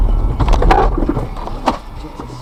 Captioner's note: hard braking sounds